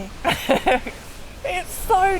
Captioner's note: cosy laughter